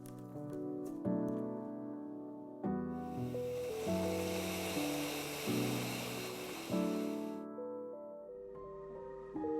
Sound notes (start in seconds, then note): 0.2 tranquil music; 3.2 blender whirring